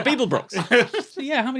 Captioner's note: giggles